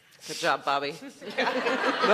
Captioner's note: laughter